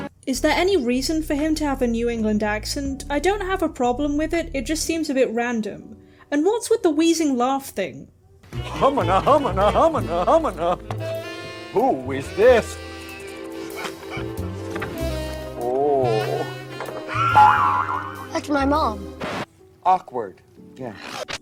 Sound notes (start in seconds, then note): 13.0 various cartoon-y noises; 19.2 record scratch